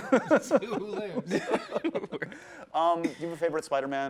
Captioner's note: laughing